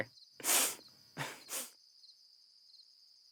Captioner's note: sniffs